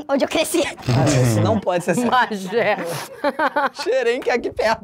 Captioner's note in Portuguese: risadas